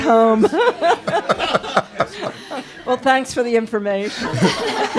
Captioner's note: laugher